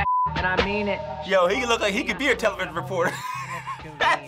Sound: laughs

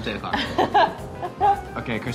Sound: laughing

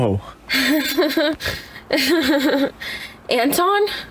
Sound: laughs awkwardly

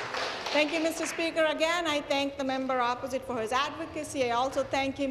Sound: applause

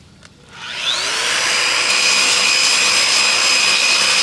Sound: grinder whirring

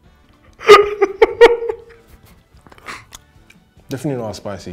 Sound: he laughs

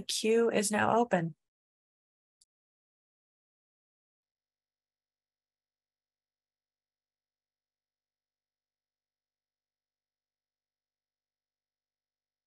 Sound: silence

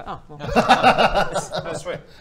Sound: laughs

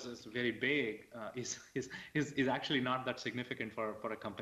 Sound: laughs

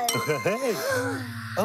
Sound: chuckles; gasps

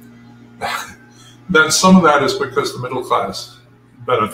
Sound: laugh

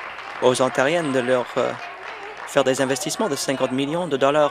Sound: applause

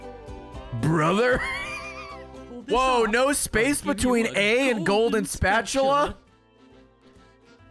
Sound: laughs

